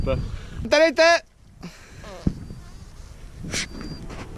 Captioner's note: farts out of nervousness